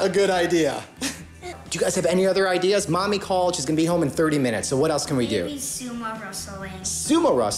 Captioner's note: laughs